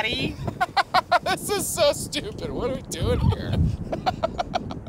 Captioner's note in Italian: risate